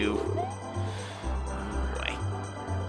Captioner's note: breathing